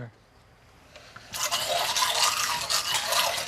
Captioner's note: whirring